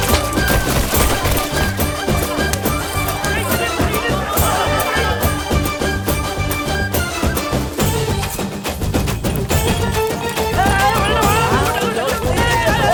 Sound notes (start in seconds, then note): 2.6 commotion ensues